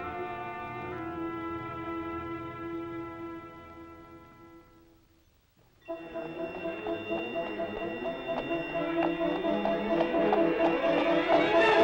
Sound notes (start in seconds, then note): 5.9 bells ringing; 5.9 upbeat music